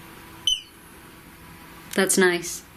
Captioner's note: beep